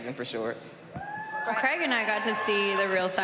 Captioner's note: cheering